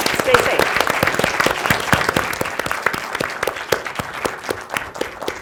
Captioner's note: applause